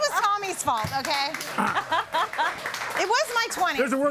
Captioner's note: audience applauding; laughing